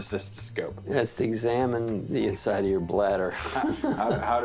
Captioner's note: laughs